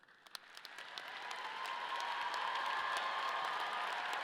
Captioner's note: audience cheering